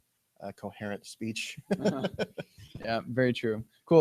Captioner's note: laughter